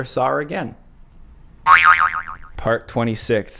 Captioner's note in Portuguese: boing